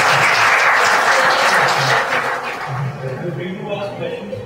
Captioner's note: applause